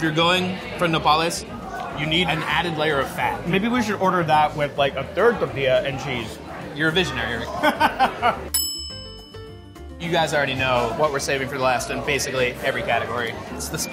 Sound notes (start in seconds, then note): 7.6 laughing; 8.5 bell dings